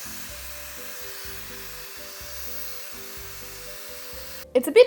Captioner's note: hairdryer whirring